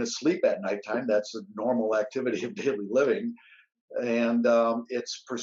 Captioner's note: laughs